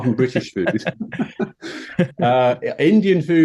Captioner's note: speakers laughing